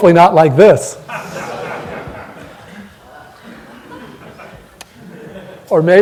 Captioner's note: laughter